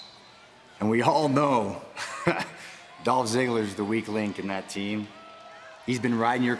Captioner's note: laugh